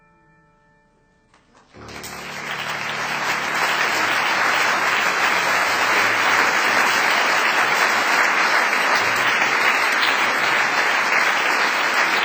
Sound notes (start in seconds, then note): 1.6 applause